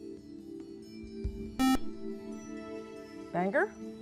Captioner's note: buzzer